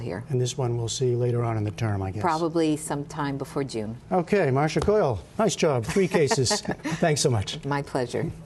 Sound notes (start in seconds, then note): 5.8 laughter